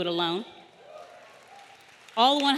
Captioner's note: audience applauding; audience cheering